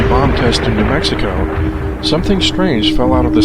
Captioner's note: bomb explodes